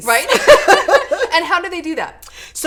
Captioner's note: laughing